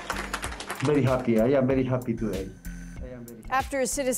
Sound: applause

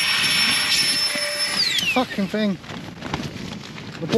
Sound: pump goes off again

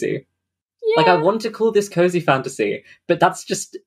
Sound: laughing

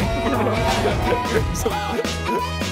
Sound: he fails to hold back laughter

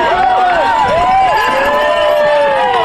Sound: crowd

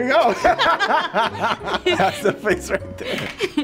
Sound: couple laughing

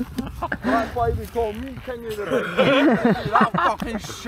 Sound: laughs

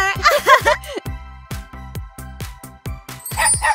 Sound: both laugh

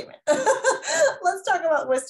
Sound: laughing

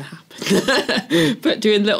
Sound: laugh

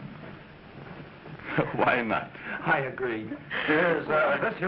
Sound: laughing

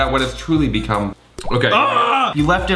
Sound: screams

